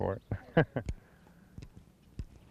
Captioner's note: laughter